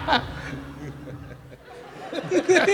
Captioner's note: laughter